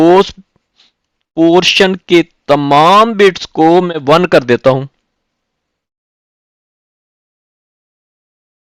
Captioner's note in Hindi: नाक से की जाने वाली आवाज़